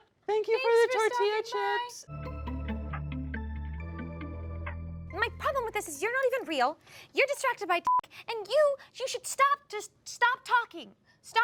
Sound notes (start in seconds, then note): 2.0 upbeat music; 7.9 beep